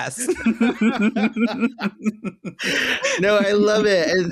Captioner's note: both laughing